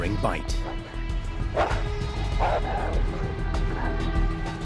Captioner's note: wolves growling, panting